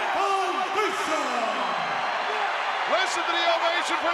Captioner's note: crowd cheering